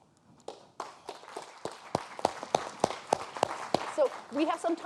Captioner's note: audience applauding